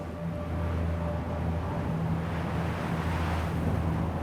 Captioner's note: wind blowing